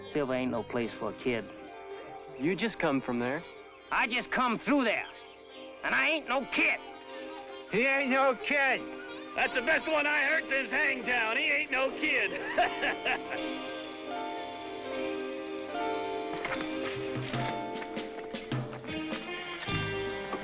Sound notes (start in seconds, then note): 12.3 soft contentious music; 12.7 laughing